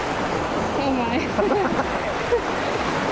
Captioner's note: laughs